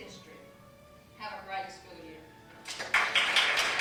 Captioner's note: applause